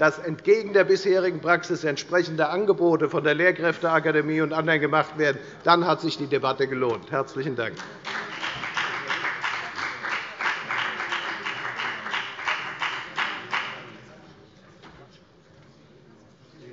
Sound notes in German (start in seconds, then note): 7.7 Beifall bei der FDP